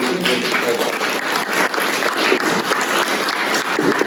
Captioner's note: applause